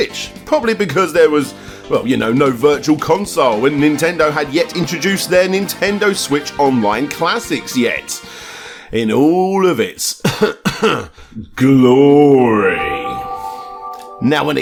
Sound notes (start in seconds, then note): 10.2 cough